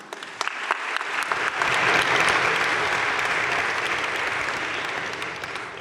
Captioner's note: crowd cheering and applauding